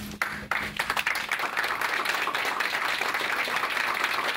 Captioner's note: audience claps